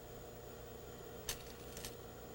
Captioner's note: rattle of fabric pin